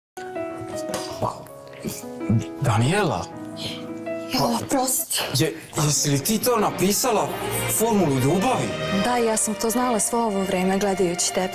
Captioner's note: some annoying reality show noises